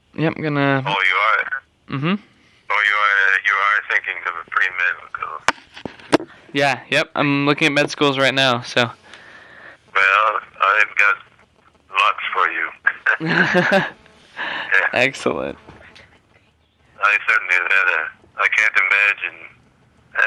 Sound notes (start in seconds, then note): 13.2 laughter